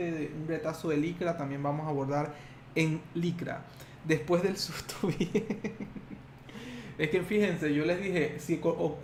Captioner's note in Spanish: risas